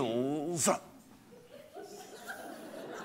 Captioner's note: laughter